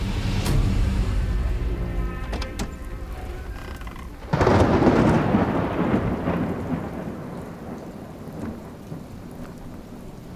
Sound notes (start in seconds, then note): 4.6 thunder crashing